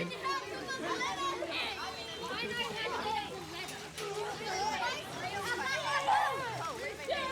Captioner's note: sound of water, children playing